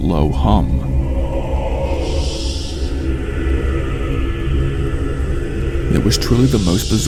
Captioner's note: demonic Humming